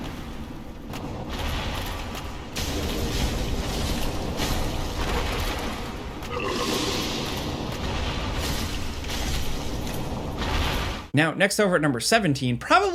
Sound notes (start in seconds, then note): 0.1 fire sizzling; 6.2 monster growls